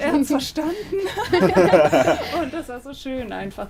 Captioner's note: laughing